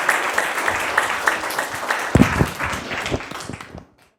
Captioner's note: applause